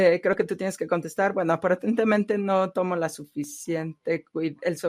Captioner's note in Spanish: a través de intérprete